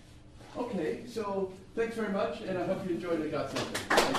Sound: clapping

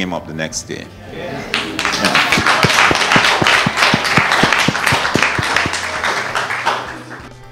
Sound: cheers, applause

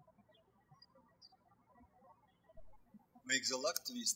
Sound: birds chirping

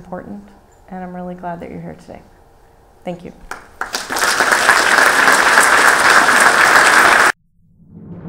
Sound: applause

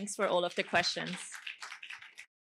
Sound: applause

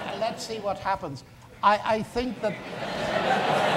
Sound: audience laughs

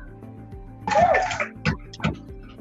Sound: cheering

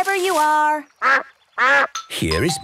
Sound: quacks

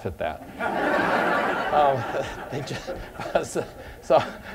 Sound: laughter

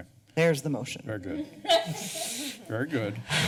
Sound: laughter

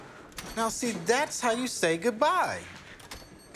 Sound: door opens, closes, bells jingle

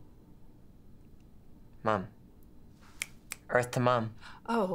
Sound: snaps

